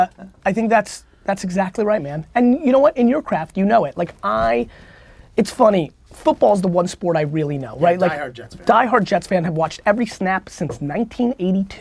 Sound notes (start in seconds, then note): 8.1 pat